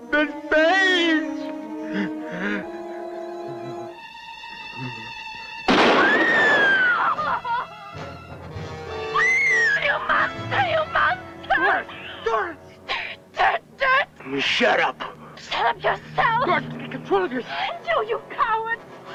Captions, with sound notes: Miss Page! (gunshot) (screaming) - You monster, you monster! - Doris, Doris! - Go ahead, do it, do it! - Shut up. - Shut up yourself! - Doris, get control of yourself! - And you, you coward!